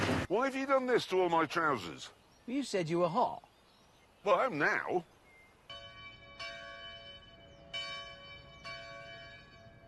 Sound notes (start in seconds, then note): 0.0 clanking; 5.7 bell continues to ring